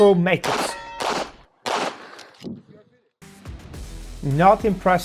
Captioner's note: gunshots banging continues